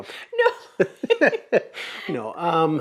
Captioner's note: laughs